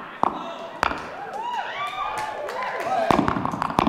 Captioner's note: slow tapping; audience cheering